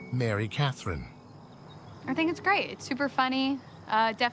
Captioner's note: none